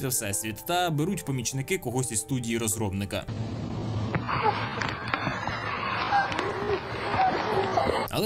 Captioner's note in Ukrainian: оплески